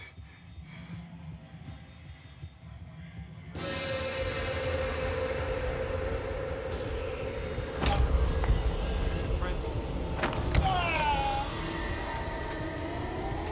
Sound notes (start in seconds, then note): 3.4 ominous music; 7.6 loud clanking; 10.5 Francis screaming